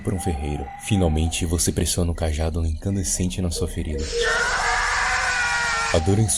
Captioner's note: yells of agony